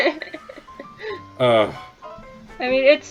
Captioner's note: laughter